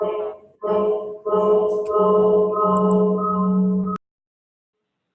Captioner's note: technical sound disruption